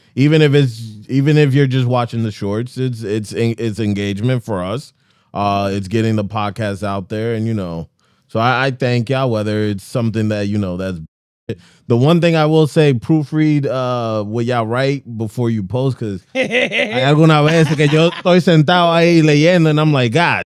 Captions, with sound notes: Even if you're just watching the shorts, it's engagement for us. It's getting the podcast out there. And you know, so I thank y'all, whether it's something that, you know, that's The one thing I will say, proofread with y'all right before you post, because-- (Speaking Spanish) And I'm like, god